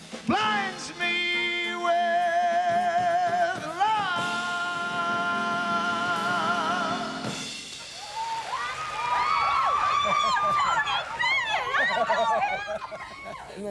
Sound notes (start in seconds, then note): 7.9 applause; 10.3 girls screaming; 11.6 laughs; 11.7 girls screaming